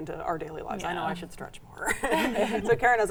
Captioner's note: all laughing